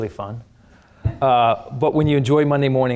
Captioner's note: audience chuckles